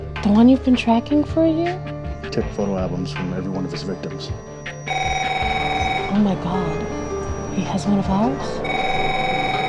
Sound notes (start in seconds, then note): 4.8 phone ringing